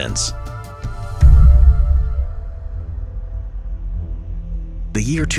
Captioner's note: transition thuds